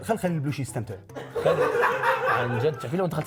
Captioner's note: laugh